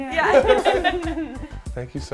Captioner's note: everyone laughing